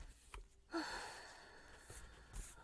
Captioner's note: a sigh of relief